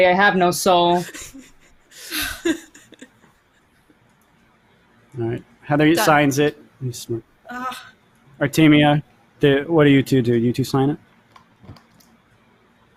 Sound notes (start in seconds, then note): 1.9 laughs